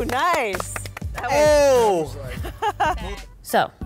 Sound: laughing

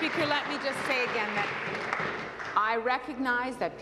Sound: applause

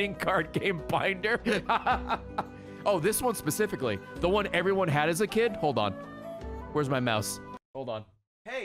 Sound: laughs

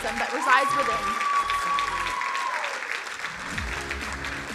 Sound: crowd cheering; upbeat music

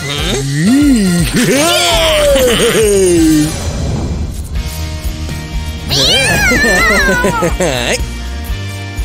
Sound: yawning; crying

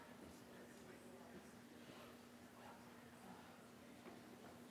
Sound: audience speaking faintly

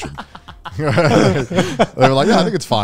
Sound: everyone laughs

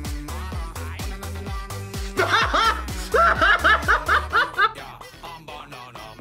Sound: laughs

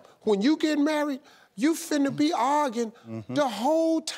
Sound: none

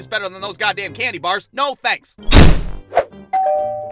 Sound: door slams; door bell rings

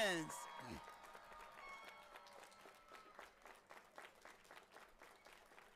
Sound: audience applauding and cheering

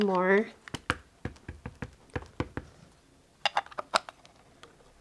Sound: ink pad tapping

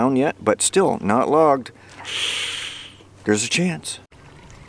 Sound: inhale sigh

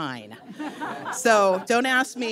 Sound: audience laughs

